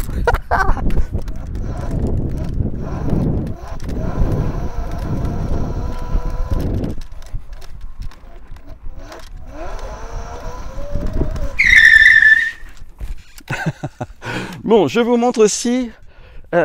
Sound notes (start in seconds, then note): 0.0 laughter; 1.6 electric motor sound; 11.6 tyres screech; 13.2 laughter